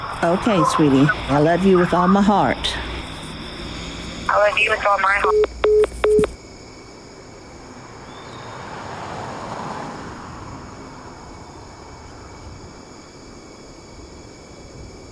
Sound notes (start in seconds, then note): 5.0 electronic beeping